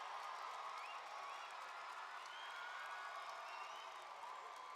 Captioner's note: applause